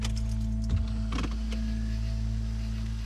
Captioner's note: car beeps; hand brake clacks; car engine rumbles